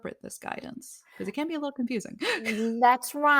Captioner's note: laughs